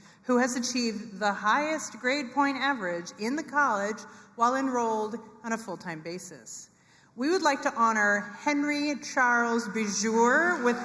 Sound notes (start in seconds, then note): none